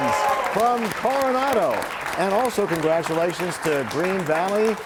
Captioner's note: applause